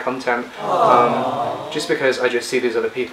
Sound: chorus of aww's

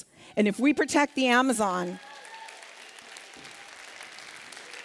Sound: applause

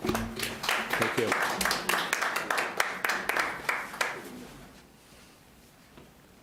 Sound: audience applauds

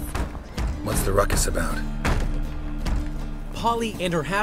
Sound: banging on door

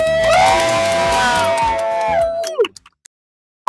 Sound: cheers

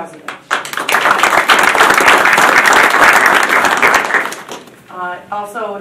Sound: audience applauding

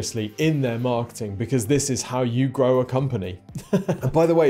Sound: chuckles

